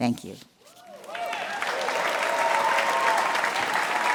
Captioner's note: crowd cheering